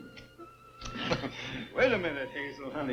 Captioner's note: mouth kissing